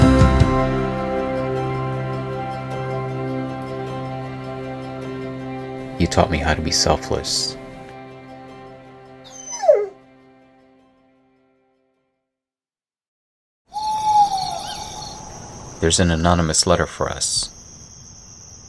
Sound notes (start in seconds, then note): 9.2 dog Cries; 13.7 owl And Crickets